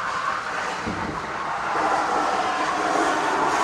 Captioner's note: tires squeal